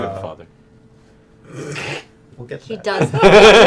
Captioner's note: laughter